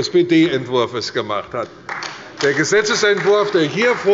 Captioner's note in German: Beifall bei der CDU und dem BÜNDNIS 90/DIE GRÜNEN